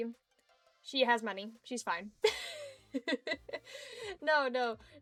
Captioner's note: giggles